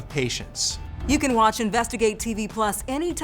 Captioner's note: graphics whooshing